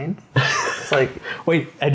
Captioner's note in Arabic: يضحك